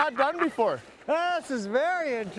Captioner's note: laughing